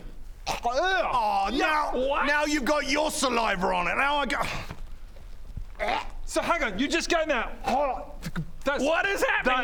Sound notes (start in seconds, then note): 5.7 urrgh; 5.8 hrgh